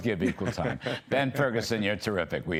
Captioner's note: laughter